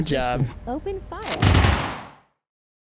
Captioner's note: gunshots